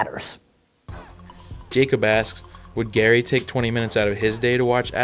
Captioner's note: voiceover